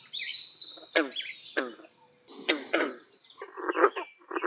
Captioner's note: green frogs calling